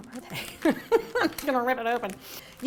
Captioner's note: laughing